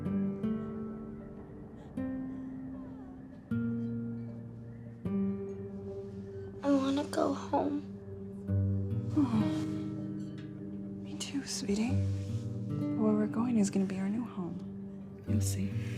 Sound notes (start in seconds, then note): none